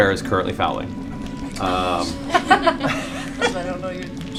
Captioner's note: laughter